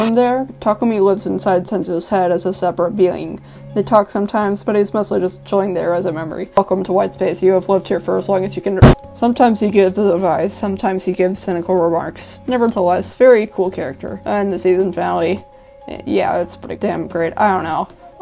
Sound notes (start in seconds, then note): 8.8 loud slam